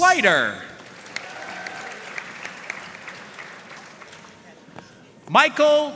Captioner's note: audience cheering and applauding